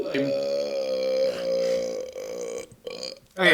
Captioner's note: burps